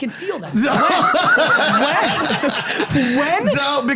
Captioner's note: laughter